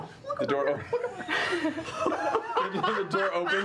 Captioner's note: laughing